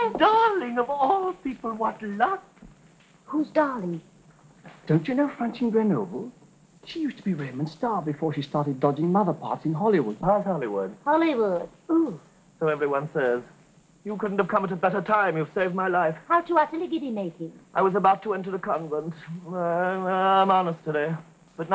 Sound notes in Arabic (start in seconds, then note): 16.6 يتمتم; 19.7 يتلعثم